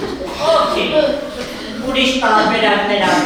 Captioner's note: laughing